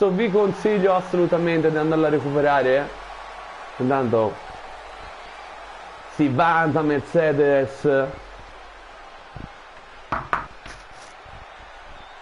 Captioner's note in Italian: Applauso